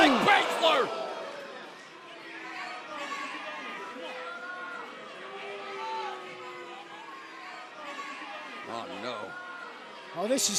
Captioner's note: crowd chatter